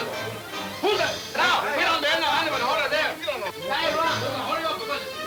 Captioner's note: men yelling simultaneously